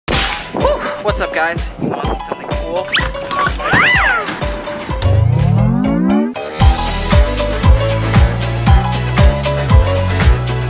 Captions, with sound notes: - Whoo! What's up, guys? You wanna see something cool? (cartoonish whistling) (energetic music)